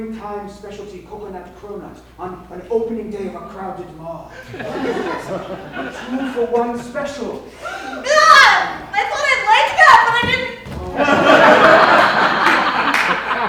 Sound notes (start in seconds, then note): 3.6 tentacles Whitney, she SCREAMS; 10.9 laughter